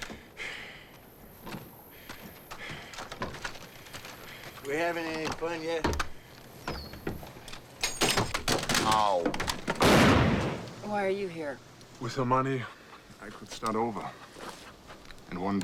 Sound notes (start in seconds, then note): 7.9 ordnance rattles; 9.7 gun fires